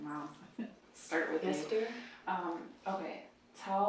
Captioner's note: laughs